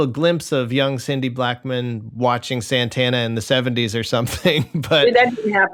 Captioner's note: laughter